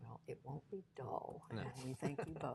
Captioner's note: laughter